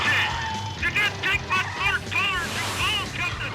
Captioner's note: shouting